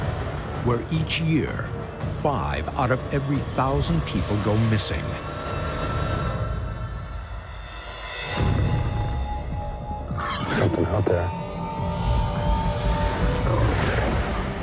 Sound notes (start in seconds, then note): 10.2 animal growls; 11.7 animal roars